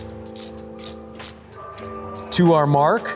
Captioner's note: wrench clangs